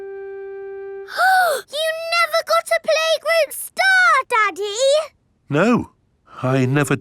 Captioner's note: gasps